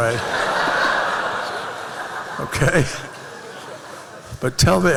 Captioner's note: laughter